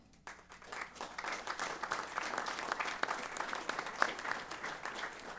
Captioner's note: applause